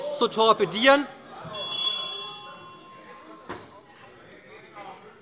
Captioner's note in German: Unruhe – Glockenzeichen des Präsidenten